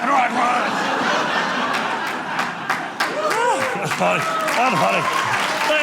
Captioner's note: audience laughing